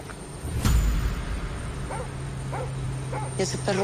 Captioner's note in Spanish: Ladridos